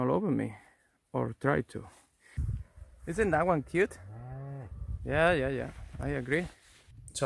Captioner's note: cow mooing